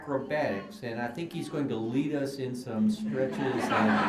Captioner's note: laughter